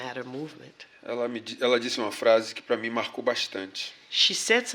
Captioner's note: speaking portuguese